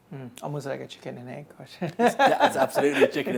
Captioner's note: laughs